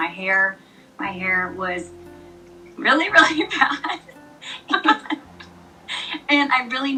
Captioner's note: haha